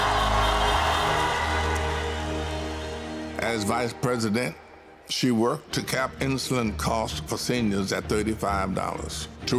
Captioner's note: cheers and applause